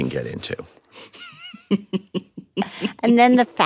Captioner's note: chuckles